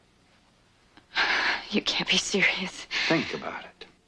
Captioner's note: gasp